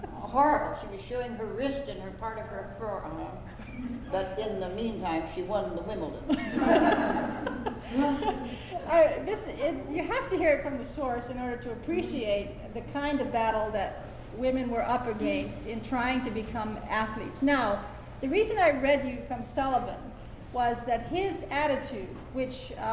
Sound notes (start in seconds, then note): 6.2 laughter